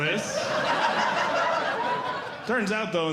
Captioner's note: audience Laughing